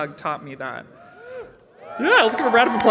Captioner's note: cheering